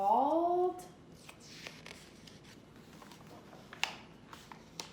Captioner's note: pages flipping